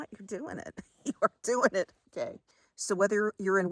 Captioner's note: chuckles